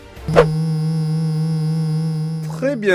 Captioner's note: engine sound